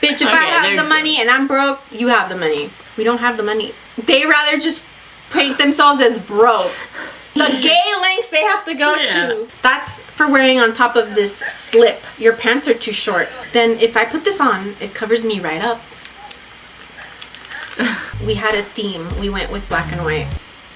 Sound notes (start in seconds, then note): 6.9 laughs